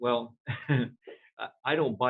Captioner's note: chuckles